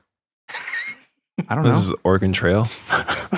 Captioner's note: laughing